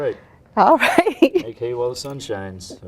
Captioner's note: laughs